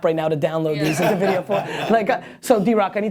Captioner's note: laughter